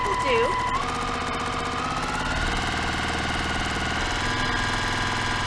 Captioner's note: sewing machine rattling